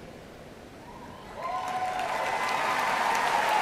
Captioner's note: applause